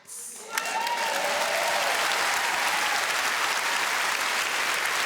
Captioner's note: audience applauding